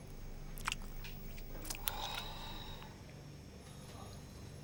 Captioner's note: chewing